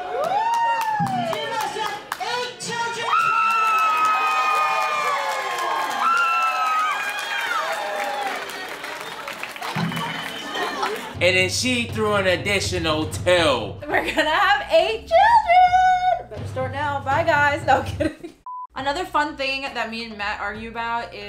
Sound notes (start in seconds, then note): 0.8 guests applaud; 1.9 foreign language; 3.0 screaming; 3.4 guests cheering; 17.8 chuckles